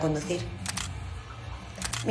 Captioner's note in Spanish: Disparos cámara